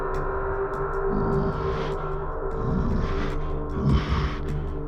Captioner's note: bear grunting